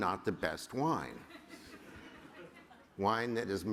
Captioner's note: laughter